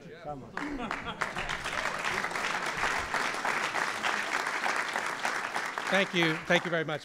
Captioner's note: applause